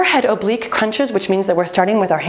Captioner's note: timer beeping